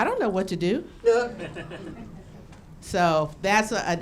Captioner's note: laughing